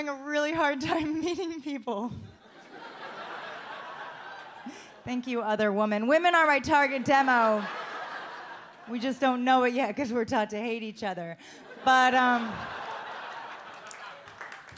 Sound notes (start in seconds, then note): 2.4 audience laughs; 11.6 audience laughs and claps